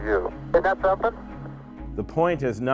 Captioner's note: radio transmission